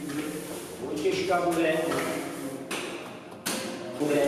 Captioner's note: speaking to Nabiré in Czech